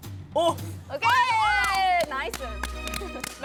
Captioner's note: Scratch